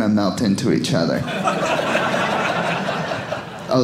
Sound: audience laughing

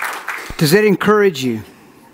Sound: congregation claps

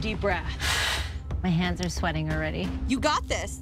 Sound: exhales

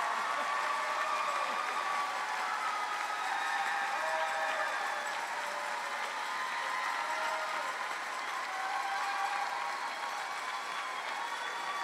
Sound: cheering

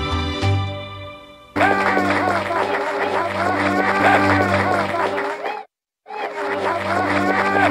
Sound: applause, cheering

